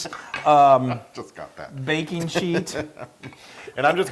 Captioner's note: laugh